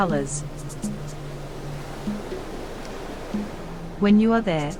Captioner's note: wave noise